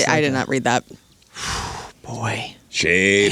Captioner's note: sighs